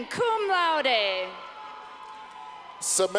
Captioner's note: clapping